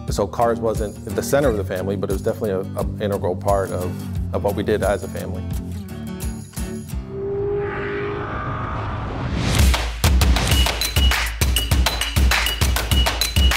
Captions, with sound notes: So, cars wasn't the center of the family, but it was definitely an integral part of what we did as a family. (upbeat music) (car engine vrooms) (swoosh) (industrial music)